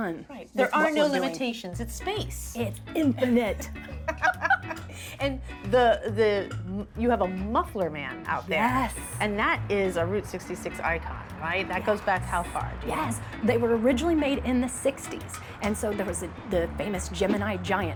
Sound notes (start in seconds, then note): 3.2 both laugh